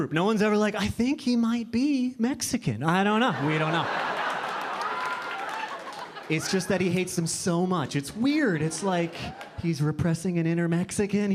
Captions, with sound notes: No one's ever like, "I think he might be Mexican." "I don't know, we don't know." (audience laughing) It's just that he hates them so much. It's weird, it's like he's repressing an inner Mexican.